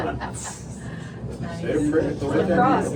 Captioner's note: chatter